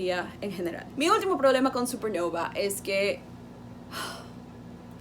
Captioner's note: sigh